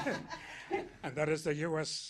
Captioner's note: laughter